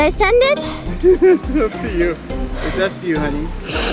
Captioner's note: laughing